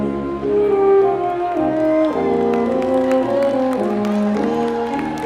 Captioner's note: cheering